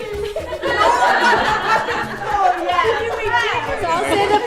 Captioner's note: everyone laughing